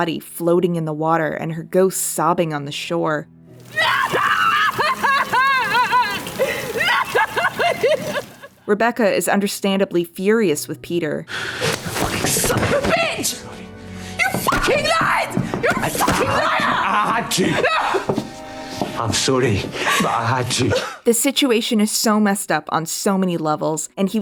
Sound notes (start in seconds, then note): 6.9 sobbing